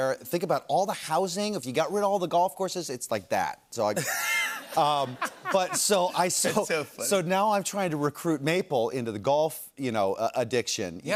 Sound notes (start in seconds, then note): 3.9 laughter